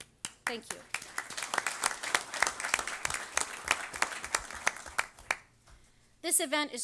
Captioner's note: audience applause